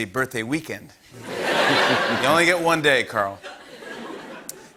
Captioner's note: laughter